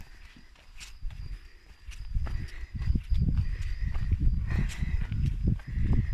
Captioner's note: steps